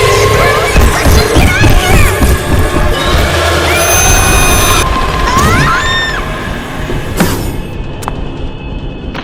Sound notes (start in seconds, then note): 0.0 Cave Cryptid Agressive noise; 3.3 cave Cryptid Agressive SCREAM